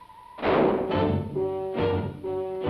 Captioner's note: gun blasting; intense music